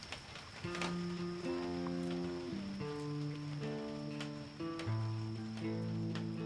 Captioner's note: rain pattering; soft rock music